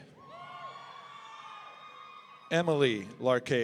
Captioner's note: audience cheering